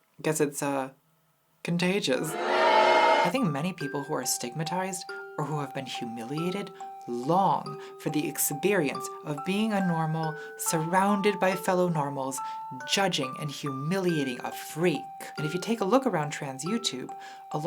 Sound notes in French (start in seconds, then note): 2.3 huées